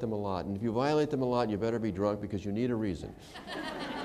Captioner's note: laughter